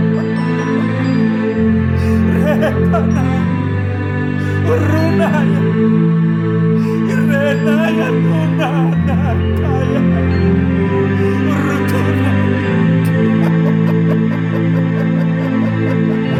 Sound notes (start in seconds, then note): 4.2 gimiendo y hablando en lenguas espirituales; 4.2 weeping /speaking in spiritual language